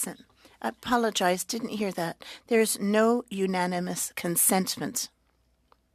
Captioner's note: speaking French